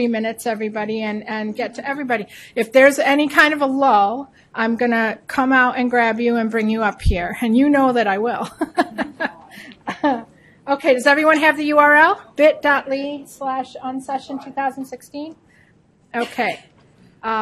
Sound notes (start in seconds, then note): 8.5 laughing